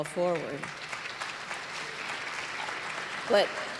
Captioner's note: applause